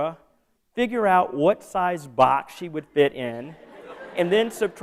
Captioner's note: laughter